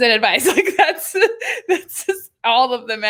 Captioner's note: laughing